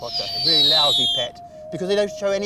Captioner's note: screech